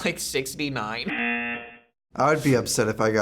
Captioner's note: buzzer